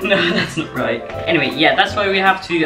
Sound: laughs at himself

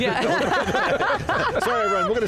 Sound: all laughing

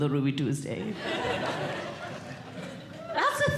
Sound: audience Laughing

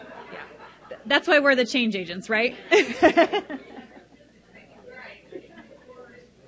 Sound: crowd laughs loudly; laughs loudly

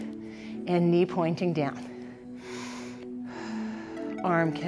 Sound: deep breathes

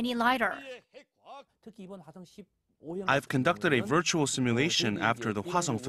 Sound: Korean

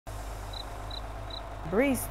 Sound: cricket chirping

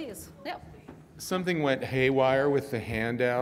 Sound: male Voice

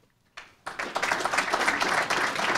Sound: applause

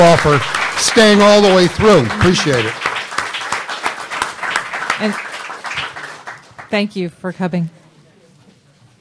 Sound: applause

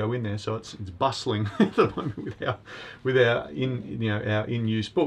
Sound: laughs

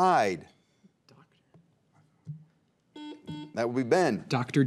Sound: buzzer beeps

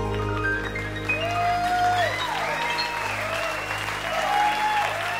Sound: cheers and applause

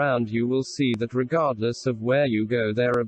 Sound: voice reads

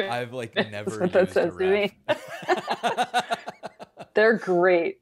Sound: both laughing

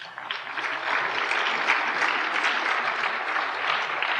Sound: applause

